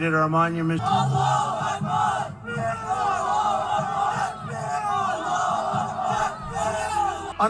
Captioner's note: crowd chanting Allahu Akbar